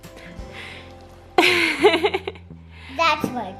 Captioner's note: laughs